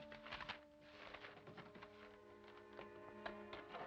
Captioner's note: paper crackling